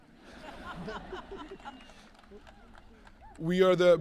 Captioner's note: audience laughing